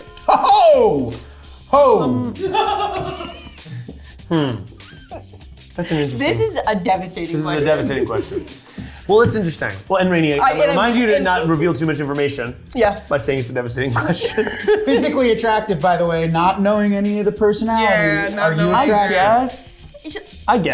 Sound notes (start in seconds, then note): 4.2 cast member laughing